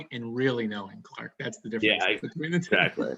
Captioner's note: laughs